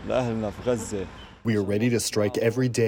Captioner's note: through translator